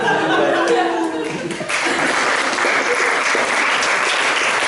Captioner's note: laughter, applause